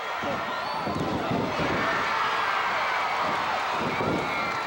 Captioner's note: audience cheering